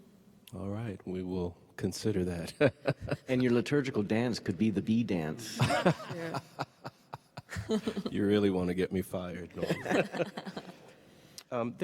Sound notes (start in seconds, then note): 2.7 laughs; 5.5 laughs; 9.6 panelists laugh